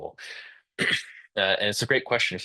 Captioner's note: interpreter clears throat